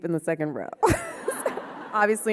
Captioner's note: audience laughing